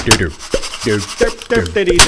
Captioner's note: mouse slapping; mouse moving noices; mouse slap